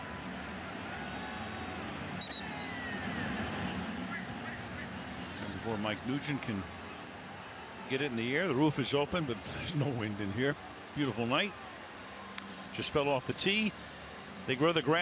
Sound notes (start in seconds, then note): 2.1 whistle blows